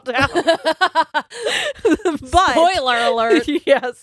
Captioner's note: all laughing